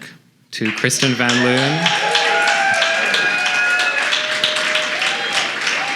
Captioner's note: audience cheers and applauds